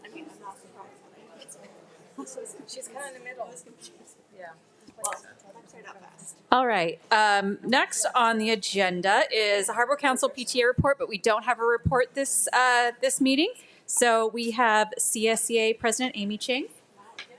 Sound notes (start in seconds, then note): 5.6 faintly speaking; 17.1 attendees chattering